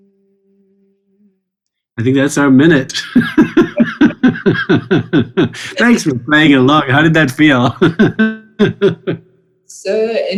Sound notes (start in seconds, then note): 2.8 both laughing; 7.9 laughing